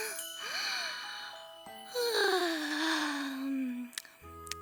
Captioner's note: sighing; yawns, Smacks Lips